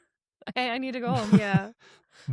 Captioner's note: chuckles